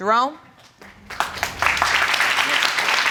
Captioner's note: applause